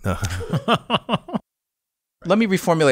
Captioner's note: laughter